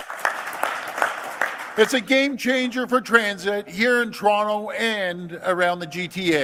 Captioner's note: applause